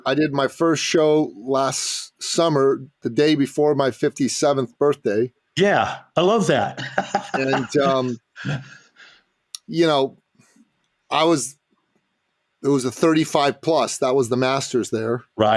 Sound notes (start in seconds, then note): 5.6 laughing